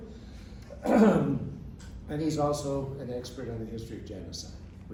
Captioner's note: clears throat